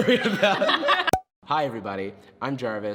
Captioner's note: group laughs, popping sound